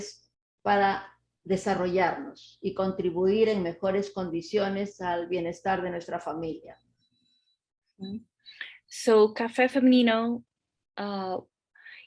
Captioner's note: speaking Spanish